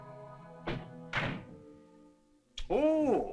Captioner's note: door opens